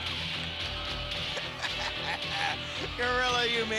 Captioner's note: laughs